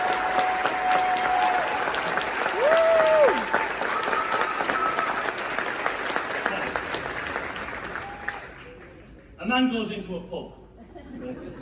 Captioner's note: cheering & applause